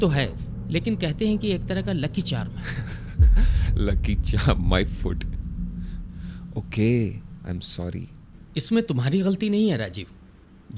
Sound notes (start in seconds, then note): 3.2 laughs